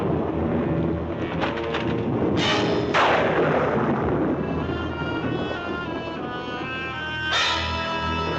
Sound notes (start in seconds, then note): 0.0 lightning crashing; 0.0 suspenseful music continues; 1.2 lightning crashing; 1.3 door rattling; 2.7 suspenseful music continues